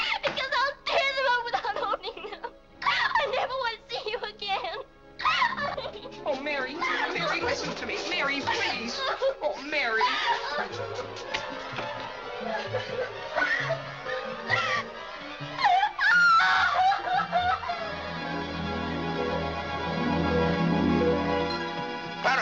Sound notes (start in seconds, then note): 5.2 Mary cries; 10.6 Mary crying; 10.6 dramatic music; 15.5 Mary shrieks; 17.7 dramatic music